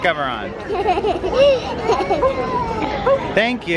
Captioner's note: laughs